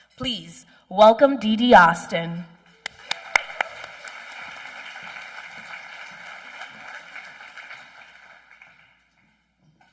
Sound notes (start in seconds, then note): 2.8 applause